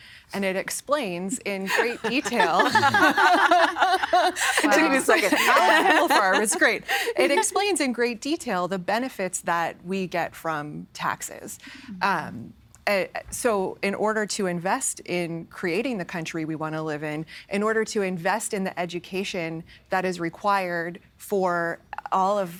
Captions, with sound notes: and it explains in great detail-- (All laughing) Took me a second. (Laughing) It explains in great detail the benefits that we get from taxes. So, in order to invest in creating the country we want to live in, in order to invest in the education that is required for all of,